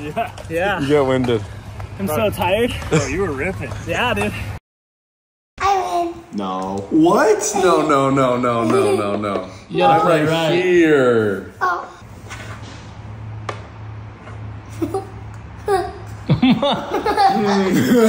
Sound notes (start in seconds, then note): 8.6 giggles; 16.2 dad laughing; 16.2 giggling; 17.8 laughs